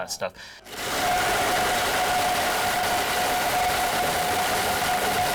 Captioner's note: blender grinding